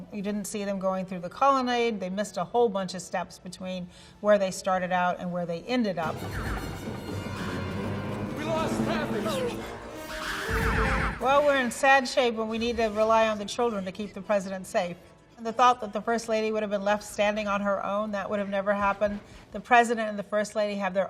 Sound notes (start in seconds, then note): 6.0 brooding music; 9.4 laser gun revving